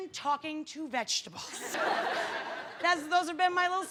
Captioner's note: laughter